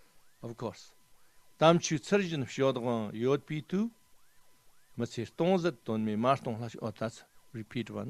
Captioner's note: tibetan